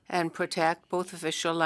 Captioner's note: speaking French